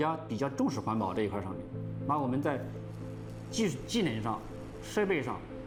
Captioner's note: speaking Chinese